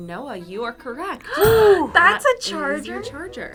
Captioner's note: gasps